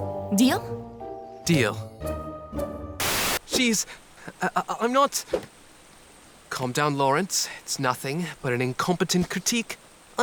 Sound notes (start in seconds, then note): 3.4 stammers